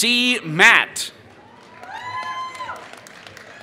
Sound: applause

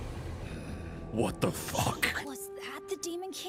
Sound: Ganondorf Voice

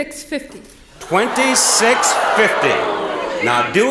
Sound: audience shouts

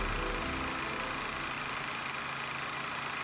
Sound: film projector running

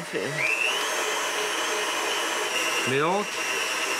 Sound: motor whirring

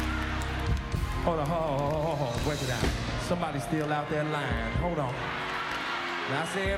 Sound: shouting, not singing

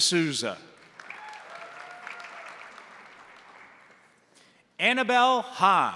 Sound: crowd applauding; crowd cheering

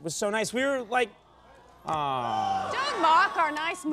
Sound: audience awes

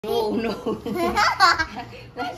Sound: laughs

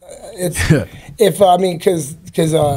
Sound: laughs

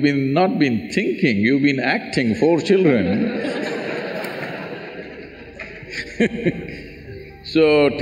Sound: laughter

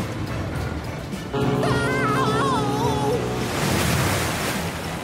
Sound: ship horn blasts and screams

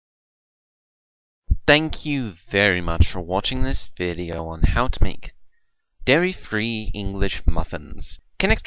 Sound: British accent

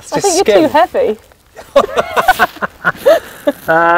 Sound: laughing

